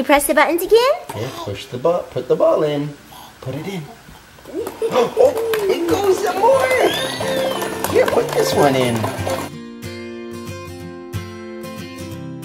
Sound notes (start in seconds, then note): 3.9 gasps; 9.6 upbeat music